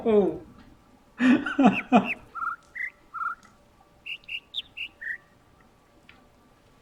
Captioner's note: whimpering; overlapping birds chirping, ˥ ˥ ˩ ˧ ˩; laughs